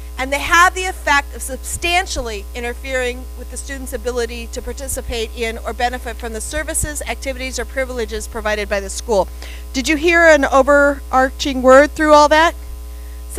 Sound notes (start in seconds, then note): none